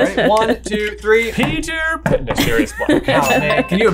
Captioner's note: chuckles